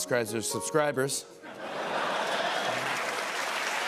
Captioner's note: laughter